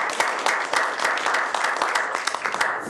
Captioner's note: applause